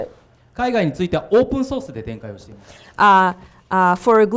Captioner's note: speaking foreign language